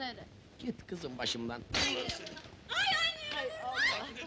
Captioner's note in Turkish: kadinin çiğlik sesleri̇